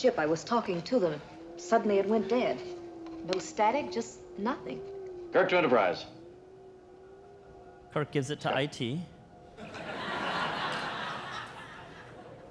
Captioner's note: audience laughter